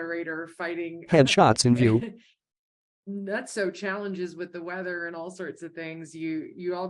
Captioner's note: chuckles